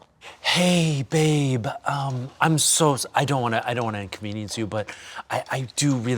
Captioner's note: stammering